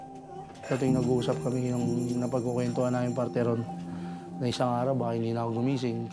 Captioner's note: speaks in foreign language